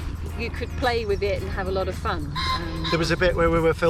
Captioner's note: roaster crows